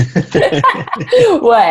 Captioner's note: both laugh